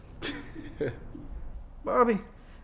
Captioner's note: Bob chuckles